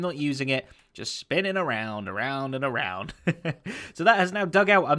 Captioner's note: chuckles